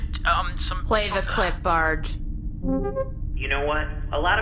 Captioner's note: clip start up beeps